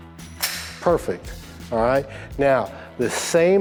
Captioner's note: gun slides